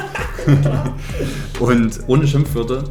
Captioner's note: both laughing